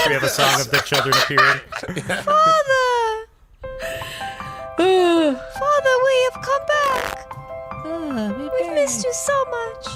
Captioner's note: hysterical laughing